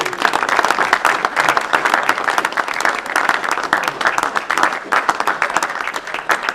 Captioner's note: applause